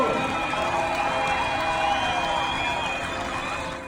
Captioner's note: cheering